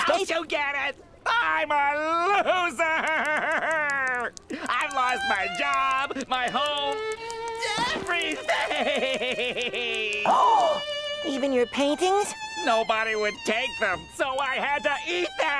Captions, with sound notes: Don't you get it?! I'm a loser. I've lost my job, my home, everything. [gasping] Even your paintings? Nobody would take them, so I had to eat them.